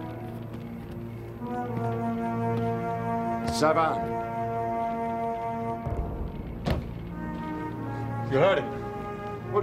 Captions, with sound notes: - Savann. (thud) You heard him.